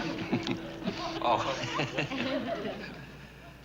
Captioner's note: laughing; laughs